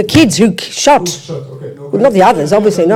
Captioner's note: French